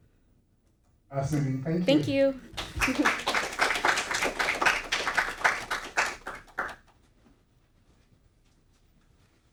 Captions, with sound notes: - Awesome, thank you. - Thank you. (audience applauding)